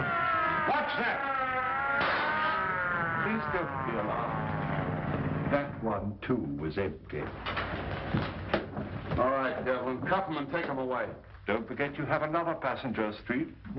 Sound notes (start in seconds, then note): 0.0 sirens in background; 0.0 commotion and struggle; 2.0 glass globe explodes